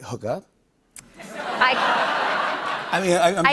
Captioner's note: laughter